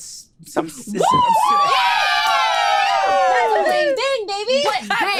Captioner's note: group cheering